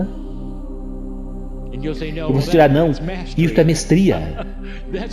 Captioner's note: laughs